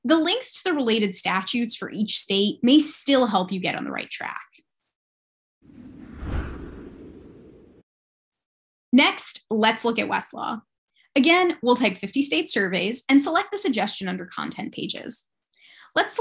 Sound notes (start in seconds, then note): 5.7 light Woosh